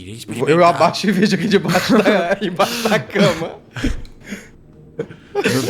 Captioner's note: laughing